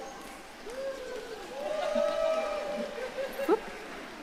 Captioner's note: audience cheering